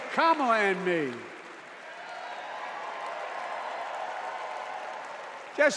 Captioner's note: cheers and applause